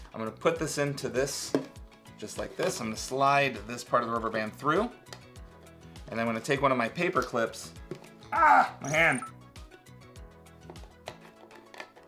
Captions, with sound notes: I'm gonna put this into this just like this, and slide this part of the rubber band through, and I'm gonna take one of my paperclips. (groans) My hand!